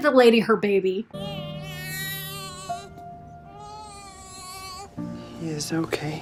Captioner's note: baby crying; solemn music